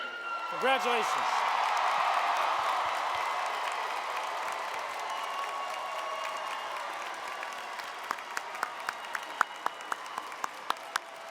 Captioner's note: crowd Cheering